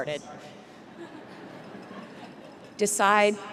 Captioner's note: crowd members chuckling